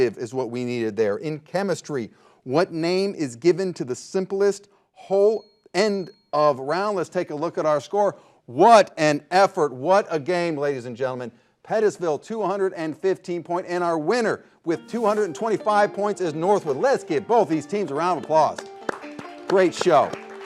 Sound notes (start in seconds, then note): 5.2 bell dings; 18.5 upbeat music